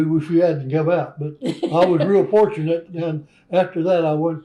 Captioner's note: laughter